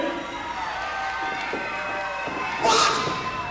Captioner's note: crowd cheers and yells